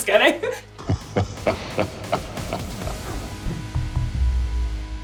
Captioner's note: laughter